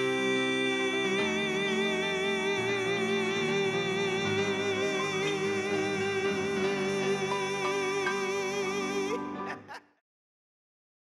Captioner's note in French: rires